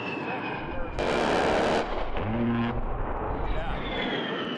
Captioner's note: plane roaring; roaring gunfire